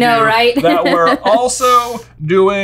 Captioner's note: laughing